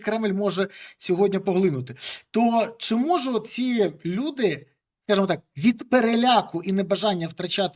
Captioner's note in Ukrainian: сопіння